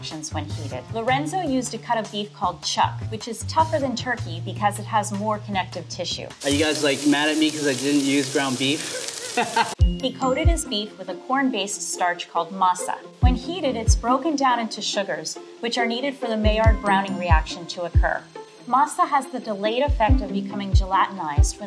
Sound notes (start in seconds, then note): 8.7 laughs